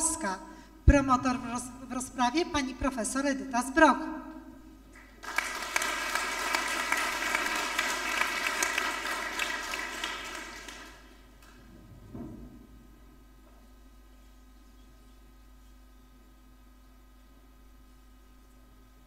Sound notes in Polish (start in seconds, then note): 4.9 oklaski